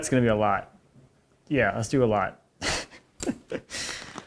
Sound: laughs

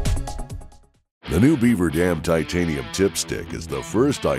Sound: voiceover

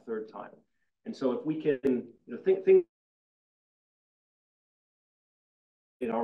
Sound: faintly speaking

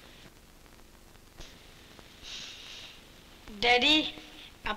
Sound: sniffs

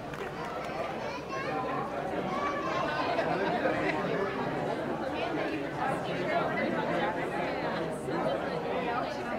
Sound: chatting & kids playing

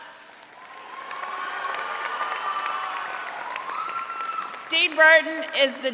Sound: audience cheering

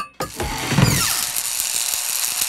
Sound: crackling

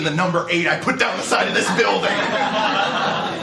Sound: laughter

